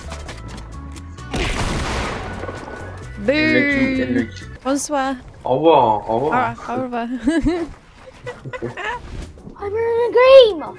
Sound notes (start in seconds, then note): 4.4 French